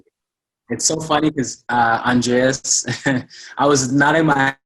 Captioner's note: laughs